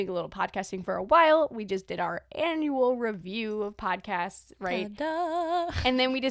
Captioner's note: celebratory sound